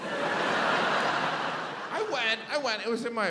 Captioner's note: audience laughs